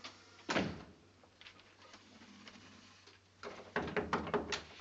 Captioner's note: door bang; knocks at the door